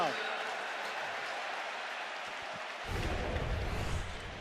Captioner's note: crowd cheering